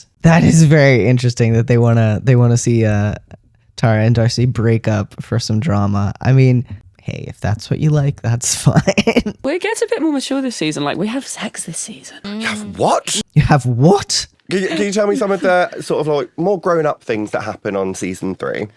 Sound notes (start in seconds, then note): 8.9 laugh; 11.0 whispers